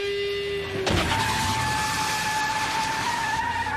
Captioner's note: tires screeching